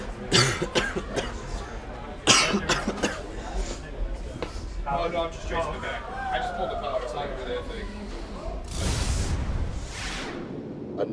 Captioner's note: coughing